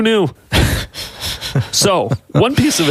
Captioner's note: laughing